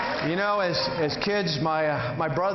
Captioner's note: cheering